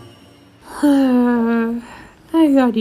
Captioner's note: Amy sighs exhaustedly